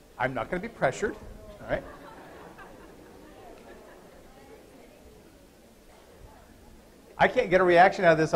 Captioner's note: laughter